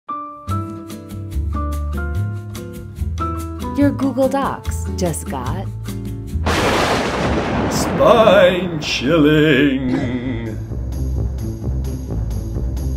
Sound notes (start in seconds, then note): 0.1 light music; 6.4 thunder booming; 10.2 spooky music